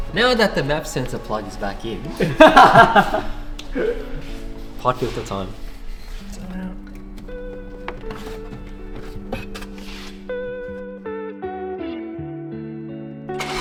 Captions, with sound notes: Now that the maf sensor plug is back in. (laughing) pod filter time It's coming out. (upbeat music)